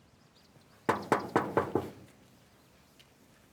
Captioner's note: knocking